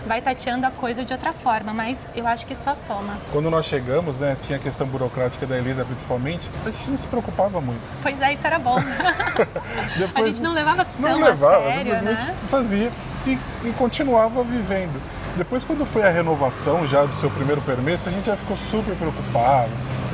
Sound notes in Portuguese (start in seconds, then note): 8.7 risadas